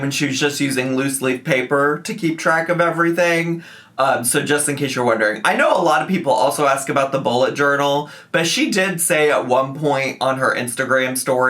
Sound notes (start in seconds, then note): none